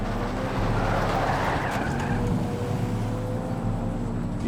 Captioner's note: tires squealing